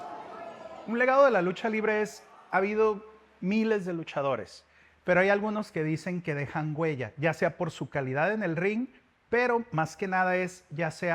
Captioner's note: speaking Spanish